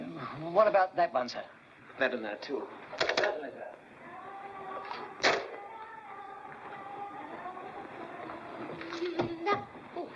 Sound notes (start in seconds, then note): 3.0 phone receiver clicks; 3.9 humming from bathroom; 5.2 phone clicks down; 6.1 humming from bathroom